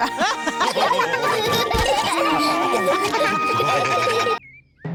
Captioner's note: all laugh